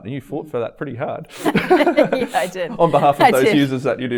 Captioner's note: laughing